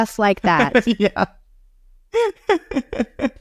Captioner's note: laughing